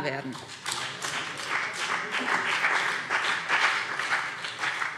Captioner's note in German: Beifall BÜNDNIS 90/DIE GRÜNEN und CDU